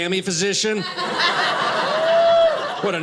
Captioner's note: audience laughing